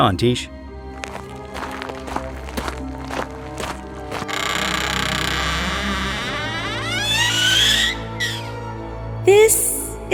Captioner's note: walking, door creeks open